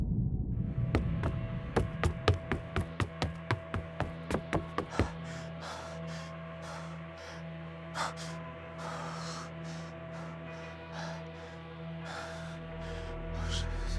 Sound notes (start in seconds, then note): 0.9 footsteps hastening; 4.4 Isaac panting